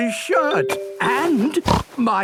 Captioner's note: snorts